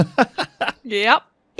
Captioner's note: laughter